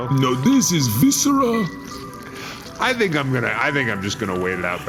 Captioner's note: slight wet, sticky sound